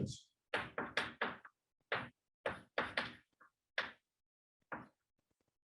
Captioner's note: chalkboard tapping loudly